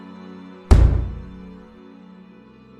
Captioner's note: pound on the door